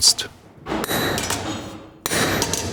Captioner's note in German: Metallische Schläge